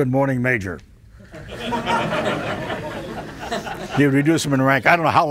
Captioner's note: audience laughing